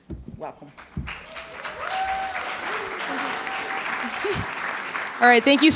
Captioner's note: audience clapping